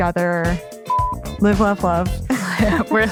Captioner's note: laughs